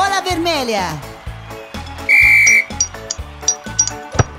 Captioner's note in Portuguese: Som de apito